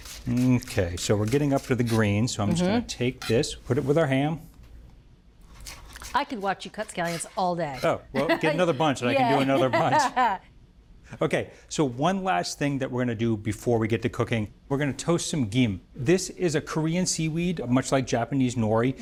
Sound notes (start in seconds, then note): 10.9 laughs